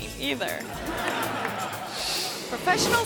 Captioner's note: audience laughing